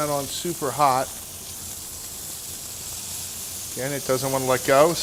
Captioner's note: sizzling